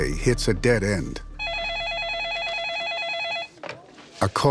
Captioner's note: telephone ringing